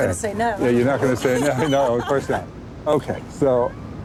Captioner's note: laughs